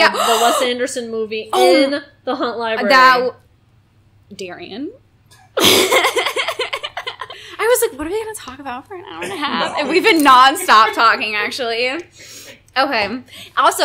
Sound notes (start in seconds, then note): 5.6 giggling